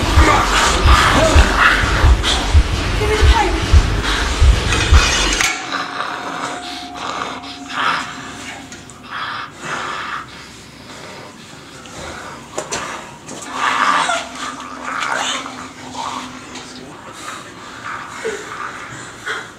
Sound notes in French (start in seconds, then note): 13.5 Le monstre continue à lutter et grogner; 14.1 Amy hurle